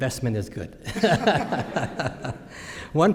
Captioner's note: laughter